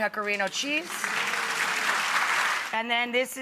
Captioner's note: audience applauds